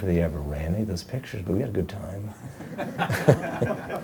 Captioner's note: laughing